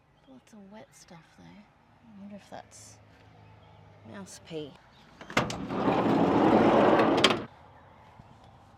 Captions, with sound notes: Lots of wet stuff, though. I wonder if that's mouse pee. [door slides loudly]